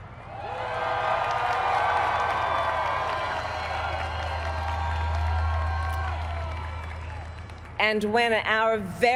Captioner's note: applaud